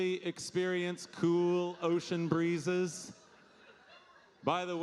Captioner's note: audience laughing